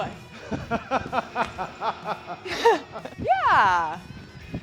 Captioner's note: Sheamus laughs